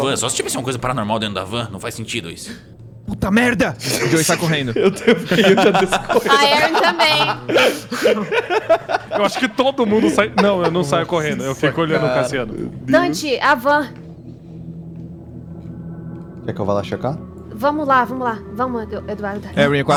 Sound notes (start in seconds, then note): 5.3 laughing; 8.5 laughs